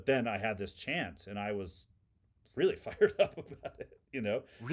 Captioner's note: laughing